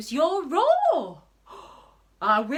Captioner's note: gasps